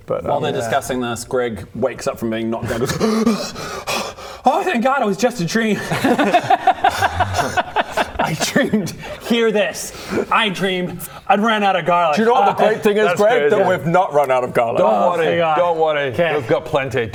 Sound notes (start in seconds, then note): 2.7 panics; 5.8 pitiless laughter